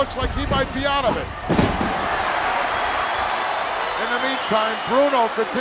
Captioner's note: audience cheering